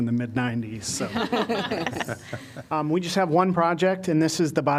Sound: laughter

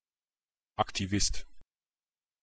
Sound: fast Pronunciation

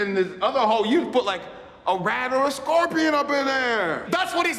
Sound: none

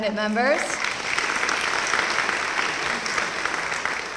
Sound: applause

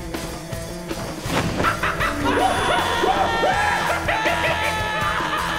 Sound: sinister laughing

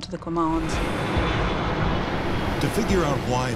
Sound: plane engine roars

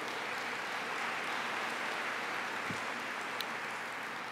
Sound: applause

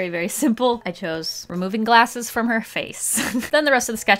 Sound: laughs

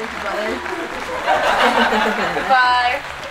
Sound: crowd laughs

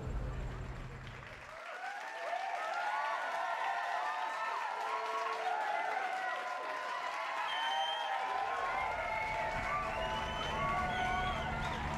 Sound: applause

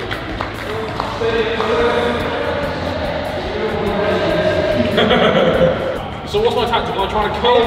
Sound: laughter

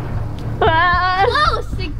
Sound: whines

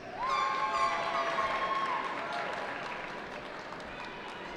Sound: cheering

